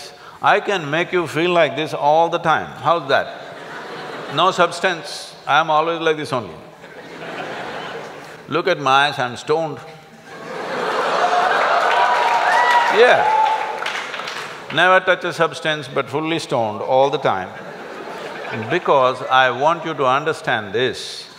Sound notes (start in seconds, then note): 10.2 laughter & Applauds